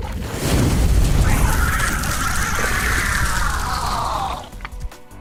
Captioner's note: bug screeching